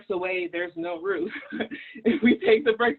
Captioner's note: laughs